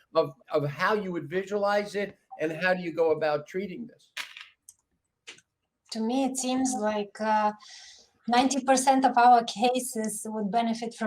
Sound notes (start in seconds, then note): 4.2 keyboard clicking